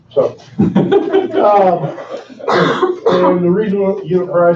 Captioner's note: laughing